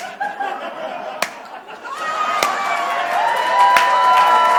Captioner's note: audience cheers